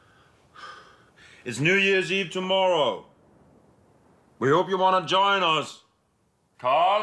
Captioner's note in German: auf Englisch